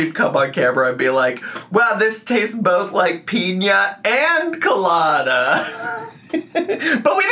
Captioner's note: laughs